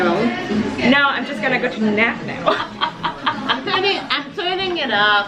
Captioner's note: laughs